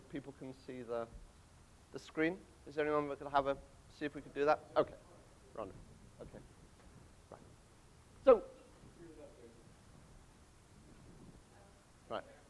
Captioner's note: audience talking